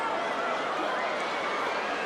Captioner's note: crowd cheering